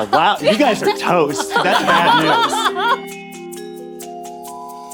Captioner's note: all laughing